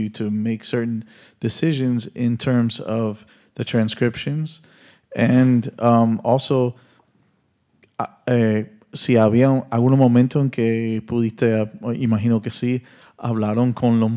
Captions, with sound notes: to make certain decisions in terms of the transcriptions? And also, (continues in Spanish)